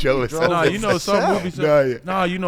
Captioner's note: laughing